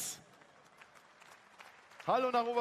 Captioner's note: applause